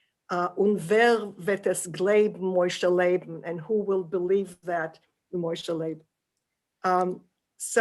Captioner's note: german